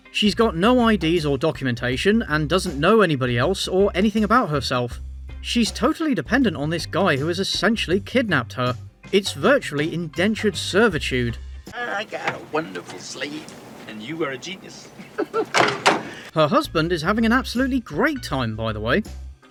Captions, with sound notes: She got no IDs or documentation, and doesn’t know anybody else or anything about herself. She’s totally dependent on this guy who has essentially kidnapped her. It’s virtually indentured servitude. “I got a wonderful slave. And you are a genius!” *Laughs* Her husband is having an absolutely great time, by the way.